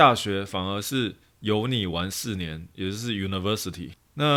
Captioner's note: pronunciation in mandarin